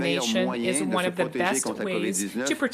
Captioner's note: speaking French